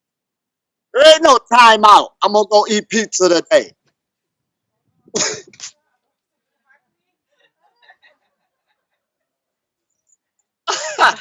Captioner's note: laughs